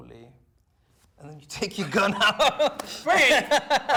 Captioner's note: laughs